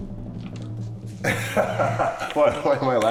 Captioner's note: laughing